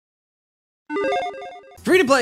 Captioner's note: logo beeps